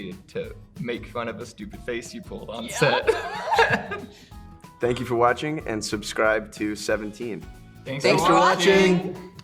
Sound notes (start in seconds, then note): 2.7 Emma and Hunter laugh